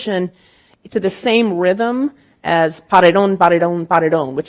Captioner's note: speaking in Spanish